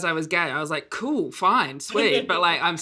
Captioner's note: laughs